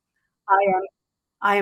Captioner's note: none